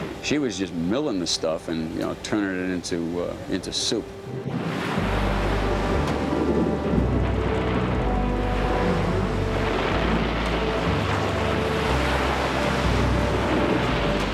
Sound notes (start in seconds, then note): 4.2 ice rumbling; 4.6 water splashing